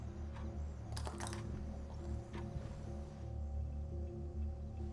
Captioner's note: object clatters